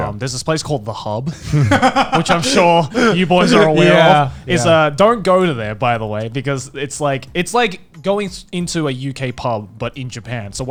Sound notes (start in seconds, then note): 1.3 laughing